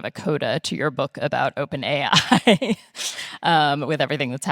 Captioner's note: laughing